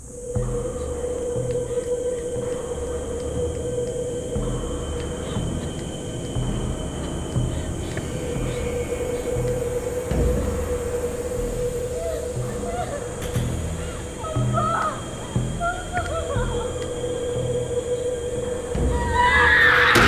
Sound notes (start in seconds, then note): 0.2 bugs chirping; 0.2 light dramatic music; 5.0 heavy breathing; 11.9 woman crying; 18.9 woman screaming